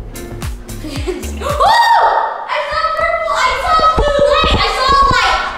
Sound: upbeat music; laughs

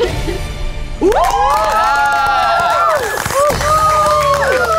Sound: audience cheers; upbeat music

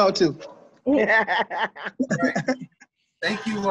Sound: laughing

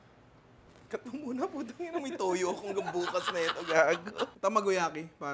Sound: laughs

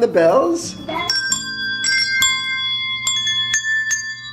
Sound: ringing

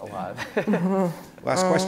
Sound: laughs

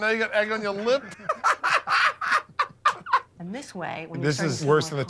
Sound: laughter

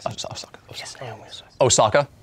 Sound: whispering

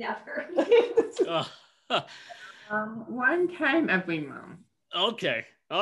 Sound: laughter

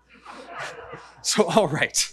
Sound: audience laughing

